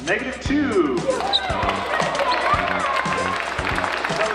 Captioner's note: applause